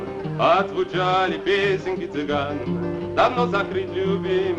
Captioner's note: continues In Russian